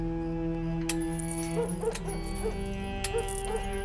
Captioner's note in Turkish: Gerilim müziği; Köpekler havlıyor